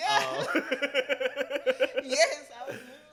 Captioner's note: laughs